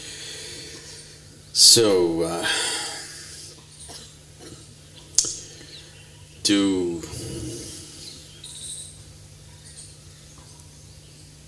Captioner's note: laughs